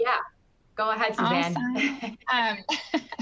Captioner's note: laughing